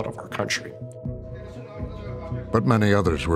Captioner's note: talking in background